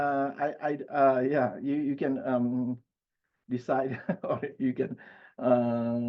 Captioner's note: chuckles